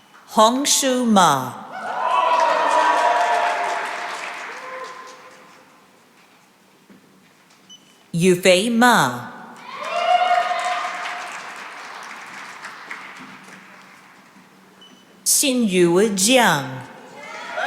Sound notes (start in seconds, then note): 1.7 cheering and applause; 9.6 cheering and applause